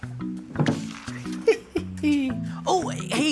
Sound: laughing

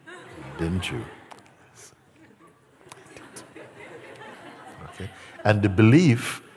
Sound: laughter; mimics despair

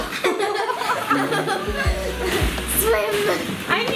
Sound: laughter

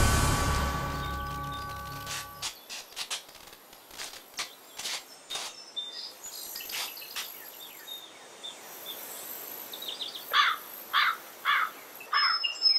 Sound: orchestra hit; footsteps, birds singing and crowing

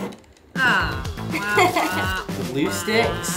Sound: laughs

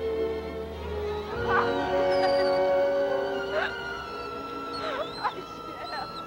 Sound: Shep whining; Tommy laughing

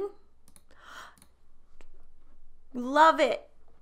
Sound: gasps

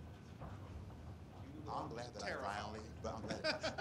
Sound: indistinct chatter

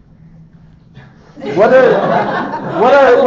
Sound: audience laughter

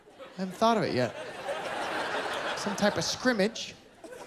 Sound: laughter

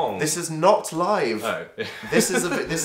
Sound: giggles

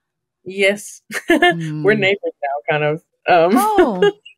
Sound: laughs

